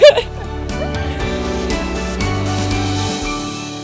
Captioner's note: laughing